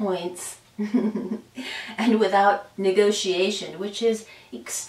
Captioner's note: laughs